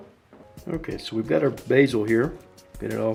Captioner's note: voiceover